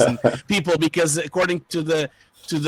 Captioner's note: laughing